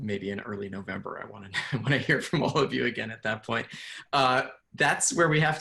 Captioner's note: laughs